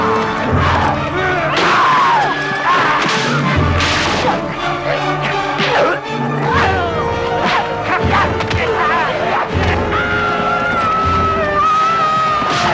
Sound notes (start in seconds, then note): 1.3 man groaning; 1.3 woman grunts; 10.2 woman roaring